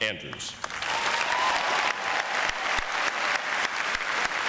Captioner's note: audience applauds